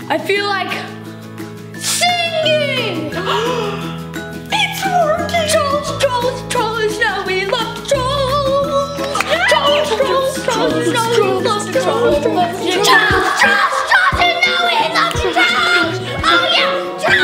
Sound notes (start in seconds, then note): 3.1 girls gasp